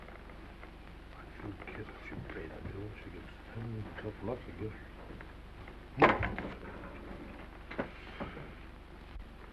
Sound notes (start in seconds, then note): 0.7 Randall mutters to himself; 6.0 bangs on table